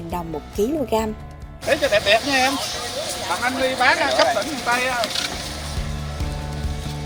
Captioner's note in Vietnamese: Tiếng người dân xung quanh